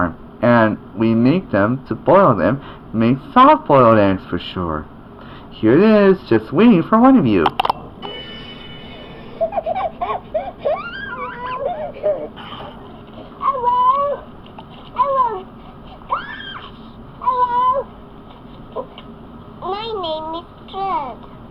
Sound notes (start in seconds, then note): 9.9 laughing; 15.9 squeals